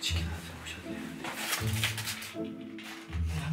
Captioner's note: the sound of unpacking